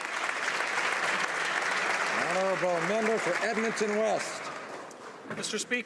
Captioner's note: applause